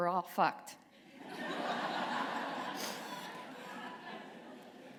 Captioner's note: laughter